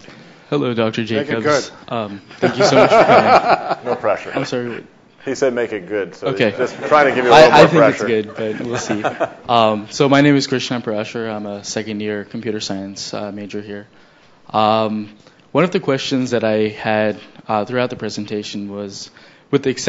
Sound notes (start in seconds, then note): 2.3 laughs; 9.5 audience laughs